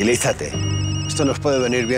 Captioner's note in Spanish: Vuelve a sonar el celular